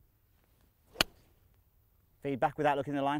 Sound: hitting ball

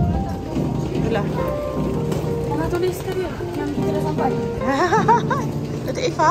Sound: laugh

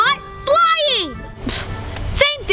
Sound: discounting sigh

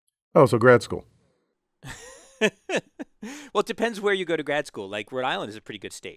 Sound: laugh

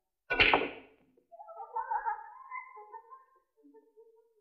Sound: laughs

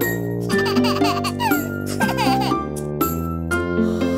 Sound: soft music; baby laughing

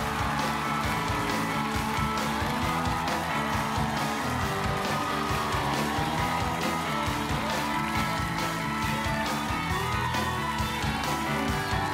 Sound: cheers and applause

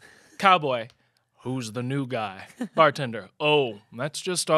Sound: none

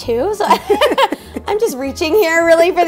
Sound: woman laughing

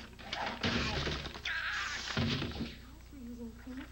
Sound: ladder crashing loudly

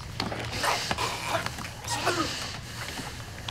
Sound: choking

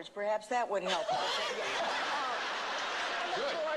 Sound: laughter

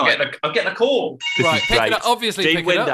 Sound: phone continues to ring

